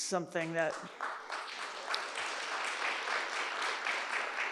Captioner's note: audience applauds